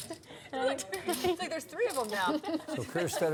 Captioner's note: laughs